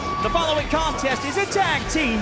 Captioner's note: bell ringing